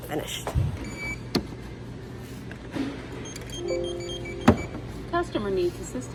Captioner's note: scanner beeping